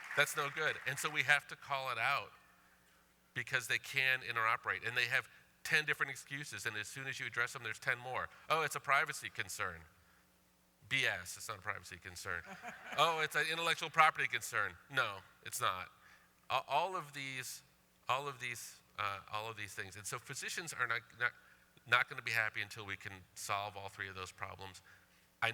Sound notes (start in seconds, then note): 14.1 laughter